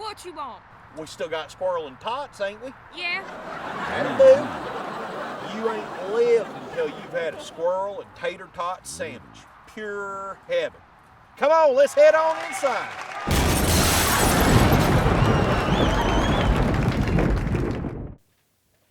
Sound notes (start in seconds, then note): 3.2 audience laughing; 13.3 glass shattering; 13.3 thunder cracking; 15.8 audience cheering